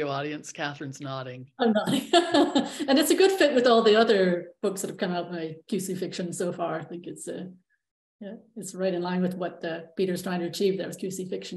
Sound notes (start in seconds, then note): 2.2 laughs